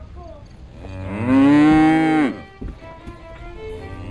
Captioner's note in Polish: muczenie; skoczna muzyka